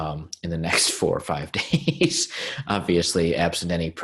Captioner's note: chuckling